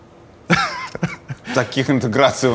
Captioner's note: laughs